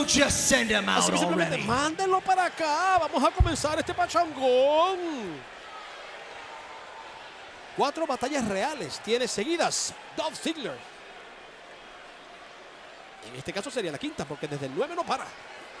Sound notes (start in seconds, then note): 6.0 applause